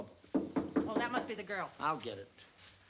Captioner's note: knocking on door